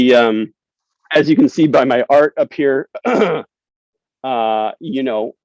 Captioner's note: clears throat